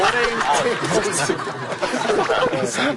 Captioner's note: clap!